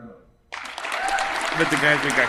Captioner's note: attendees applauding